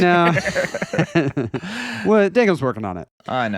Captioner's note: laughing